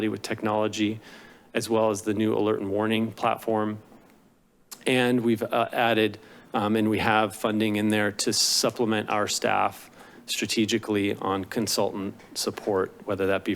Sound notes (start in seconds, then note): 4.6 tongue clicks